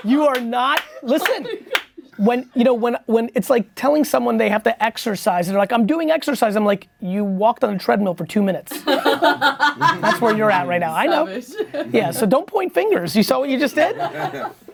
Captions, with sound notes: You are not... Listen. When it's like telling someone they have to exercise and they're like, I'm doing exercise, I'm like, you walked on the treadmill for two minutes. (laughing) That's where you're at right now. I know. Yeah. So don't point fingers. You saw what you just did?